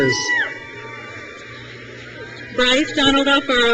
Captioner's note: crowd cheers